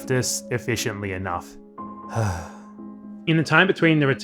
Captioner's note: sigh